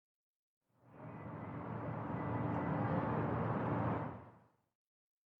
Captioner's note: passing cars